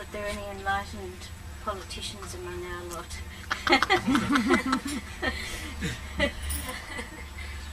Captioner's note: shree mataji laughs